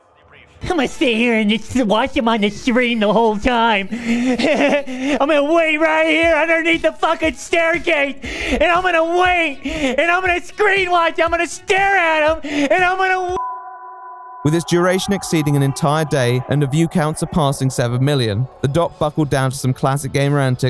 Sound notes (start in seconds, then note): 3.9 laugh